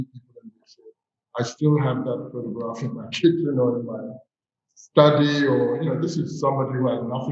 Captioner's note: chuckles